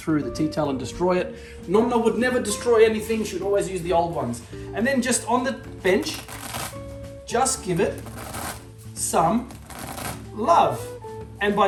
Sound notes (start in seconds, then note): 0.4 speaking Italian; 6.0 pasta cracking